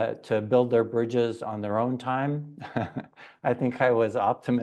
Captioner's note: laughs